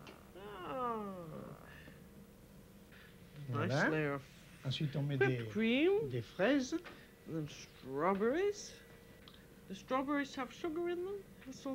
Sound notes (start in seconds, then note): 5.5 speaking French; 11.6 speaking French